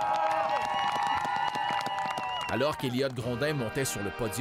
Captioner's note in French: applaudissements